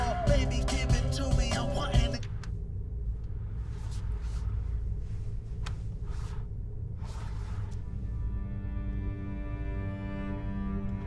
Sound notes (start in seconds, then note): 2.1 radio clicks; 8.2 ominous music